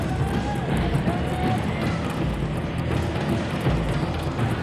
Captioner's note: group clamoring